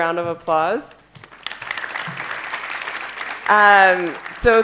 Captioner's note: applause